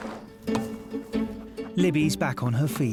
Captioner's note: racket thuds